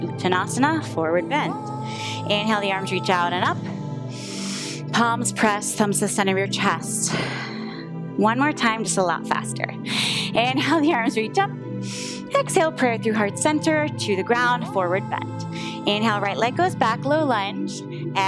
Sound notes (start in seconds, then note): 3.9 inhales